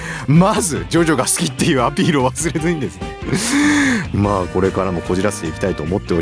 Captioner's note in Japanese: 笑い